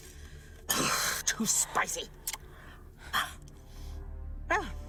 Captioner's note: huffs